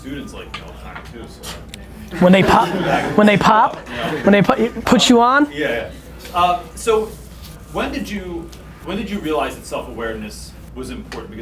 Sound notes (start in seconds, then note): 2.1 laughing